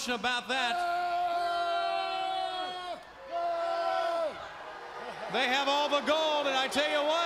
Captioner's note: crowd cheering